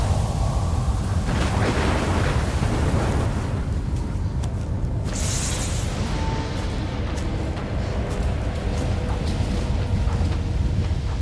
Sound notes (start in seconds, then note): 0.0 thunder rumbling; 3.5 wind gushing